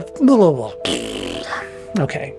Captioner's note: raspberry